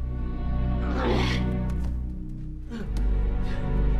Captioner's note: groans